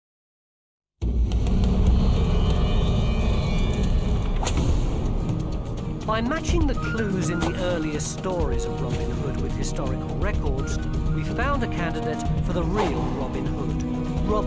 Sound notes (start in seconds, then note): 1.1 intense music; 3.3 flames crackling